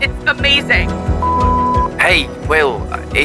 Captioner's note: phone beeping